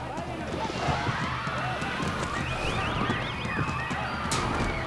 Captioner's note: crowd screaming